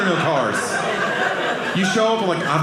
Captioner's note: audience laughing